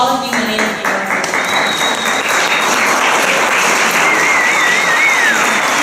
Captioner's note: applause